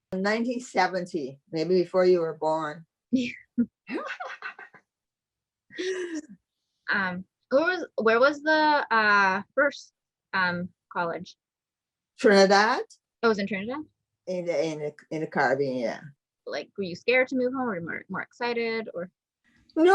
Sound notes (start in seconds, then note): 3.9 laughing